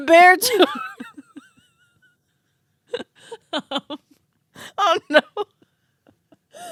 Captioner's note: laughing